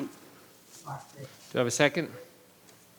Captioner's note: murmurs